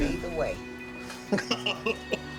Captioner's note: laughing